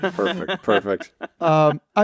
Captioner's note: laughs